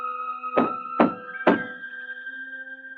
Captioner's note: pounding